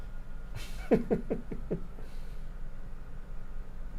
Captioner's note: chuckles